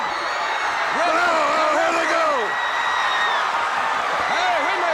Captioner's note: audience cheering